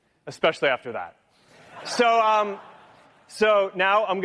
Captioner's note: laughter